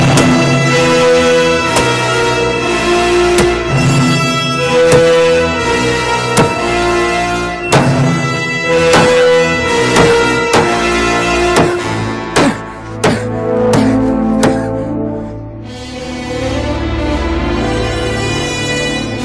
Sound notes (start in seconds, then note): 6.3 chopping intensifies; 16.4 foreboding music intensifies